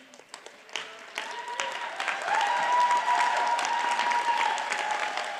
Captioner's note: audience cheers and applauds